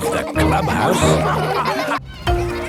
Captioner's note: all laughing